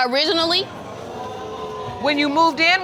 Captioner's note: audience exclaiming